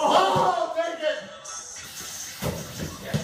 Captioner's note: men shouting